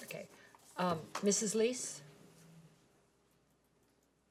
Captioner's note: none